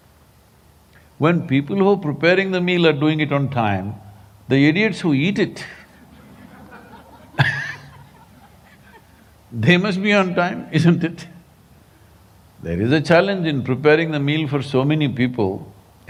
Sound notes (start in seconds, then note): 5.6 laughter